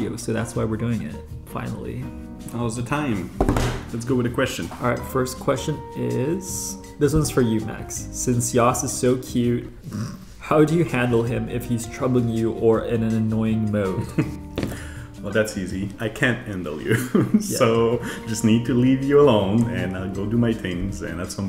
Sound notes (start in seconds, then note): 3.3 hands drumming